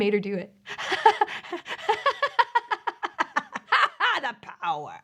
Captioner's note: maniacal laughter